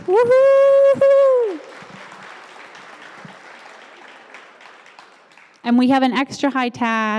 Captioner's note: applause